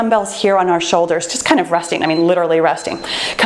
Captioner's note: timer beeps